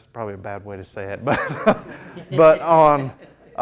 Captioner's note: laughs; students laughing